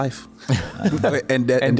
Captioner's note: chuckles